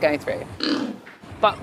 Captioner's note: pig oinks